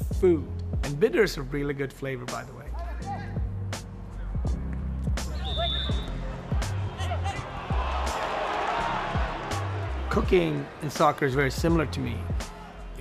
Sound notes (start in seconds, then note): 5.2 whistle blows; 8.6 crowd cheers